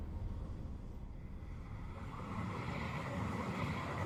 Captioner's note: train rumbling